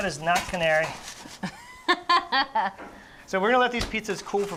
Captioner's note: laughs